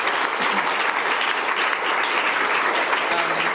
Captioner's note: audience claps